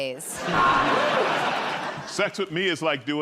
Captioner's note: buzzer